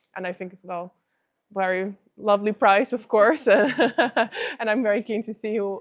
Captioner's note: laughs